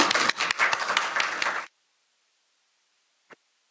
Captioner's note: applause